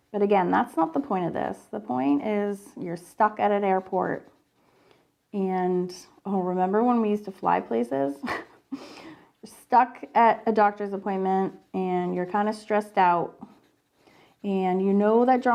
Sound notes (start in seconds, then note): 8.0 laughs